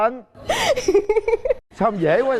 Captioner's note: laughing